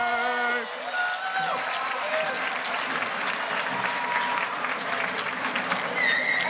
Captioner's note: audience cheers and applauds